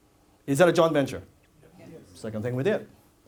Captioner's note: audience says yes